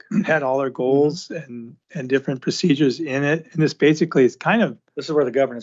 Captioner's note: clears throat